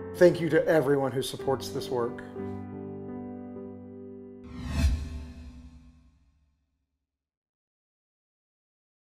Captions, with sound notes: Thank you to everyone who supports this work. (soft dramatic music) (air whooshing)